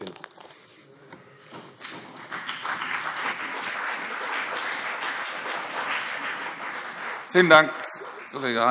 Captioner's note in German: Beifall CDU und BÜNDNIS 90/DIE GRÜNEN